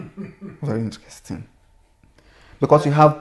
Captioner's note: laughter